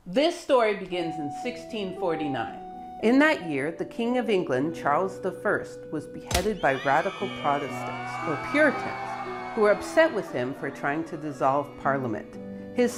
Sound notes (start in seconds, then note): 1.7 gentle pensive music; 6.3 ax thuds; 6.5 crowd cheers